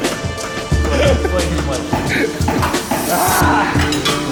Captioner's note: laughter